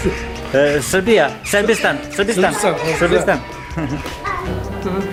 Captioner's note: in Turkish